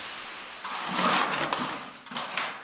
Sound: scraping noise

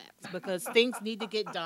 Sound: laughing

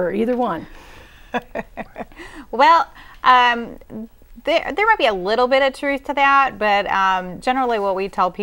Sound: laughing

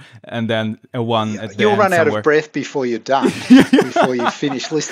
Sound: laughs

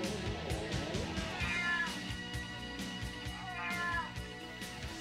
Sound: cat meowing

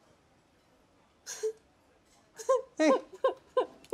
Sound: crying

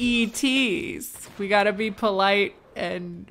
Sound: laser explosions

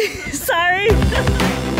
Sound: laughs

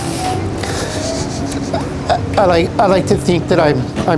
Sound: man sobs

